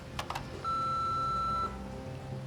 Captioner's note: machine beeps